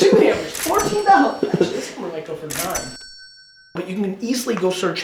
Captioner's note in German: Kasse klingelt